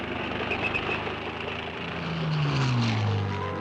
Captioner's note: engines revving